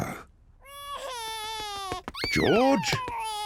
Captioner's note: george cries